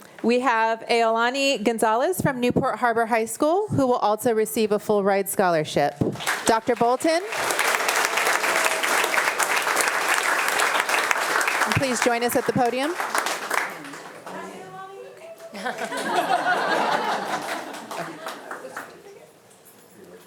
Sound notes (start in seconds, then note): 7.4 attendees applauding; 15.3 attendees laughing